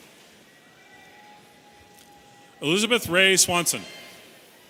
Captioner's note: audience cheering